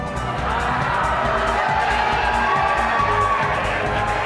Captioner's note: yelling from the audience